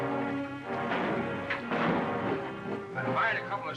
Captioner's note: gunshots